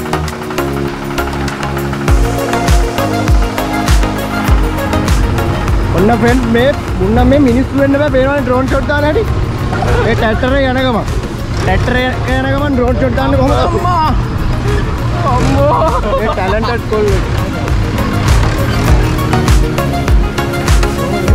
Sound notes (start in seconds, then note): 14.5 exclamation; 16.2 tractor is jerking